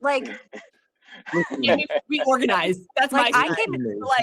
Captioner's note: laughing